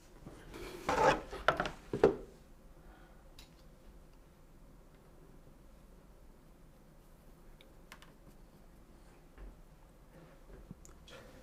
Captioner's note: silence